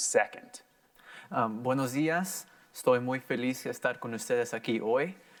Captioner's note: in foreign language